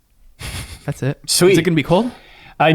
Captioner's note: chuckles